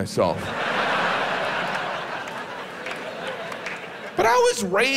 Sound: audience laughs

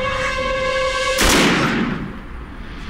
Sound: gunshot

